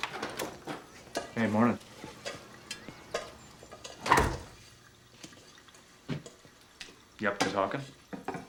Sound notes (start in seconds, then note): 3.9 door closes